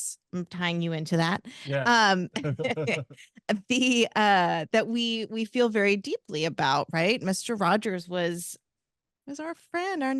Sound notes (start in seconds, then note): 2.3 chuckles